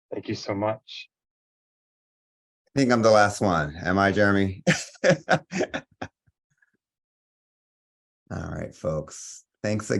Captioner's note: laughs